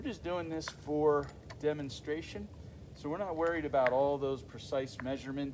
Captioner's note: clicking sound of tool pushing through wood